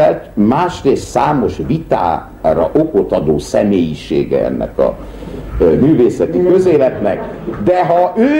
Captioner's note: laughter